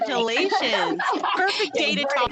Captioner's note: laughter